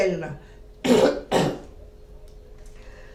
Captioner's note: coughing